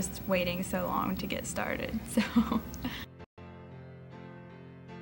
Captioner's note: laughts